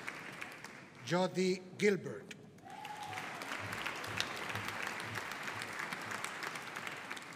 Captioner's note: audience applauding